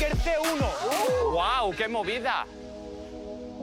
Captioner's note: shouts